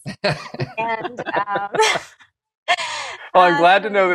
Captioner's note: laughter